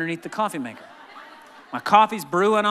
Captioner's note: laughing